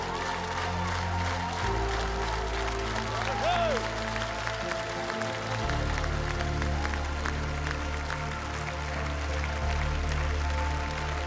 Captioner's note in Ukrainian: оплески